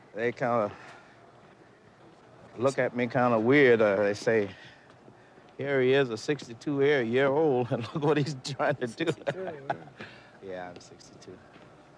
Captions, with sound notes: They kinda look look at me kinda weird or they say, "Here he is, a 62 year old (laughs) and look at what he's trying to do." - 62, all right. - Yeah, I'm 62.